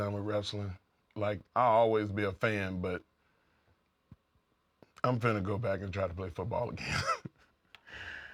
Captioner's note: laugh